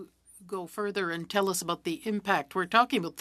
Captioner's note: speaking french